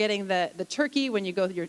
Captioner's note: none